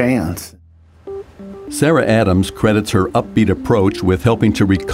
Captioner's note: voiceover